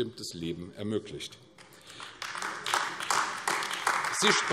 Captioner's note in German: Beifall AfD